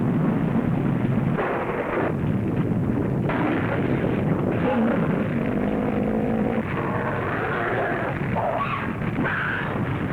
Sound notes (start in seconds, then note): 4.5 creatures growling